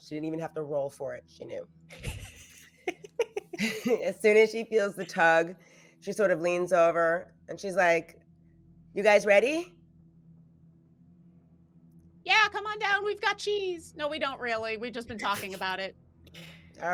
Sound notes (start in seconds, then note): 1.9 laughs